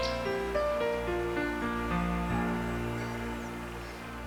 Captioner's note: birds chirping